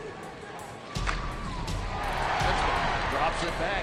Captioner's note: crowd cheers